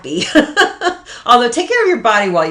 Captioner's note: laughs